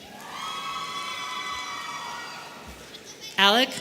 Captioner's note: audience cheering